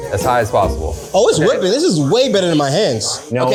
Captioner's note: mixer whirring